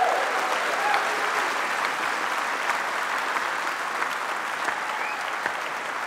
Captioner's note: applause